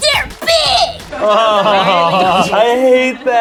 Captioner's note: group laughs